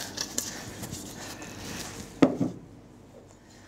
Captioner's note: rustling, clinking